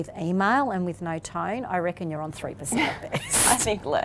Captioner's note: laughs